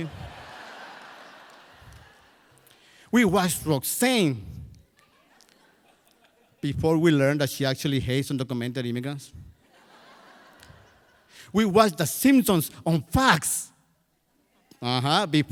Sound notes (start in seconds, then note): 0.0 crowd laughs; 9.6 crowd laughs